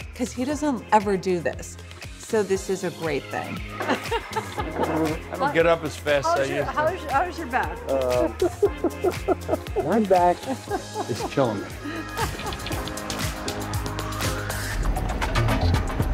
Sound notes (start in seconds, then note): 7.8 chuckles; 12.4 upbeat music